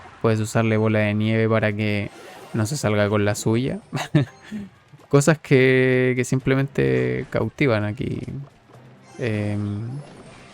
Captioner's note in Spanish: risas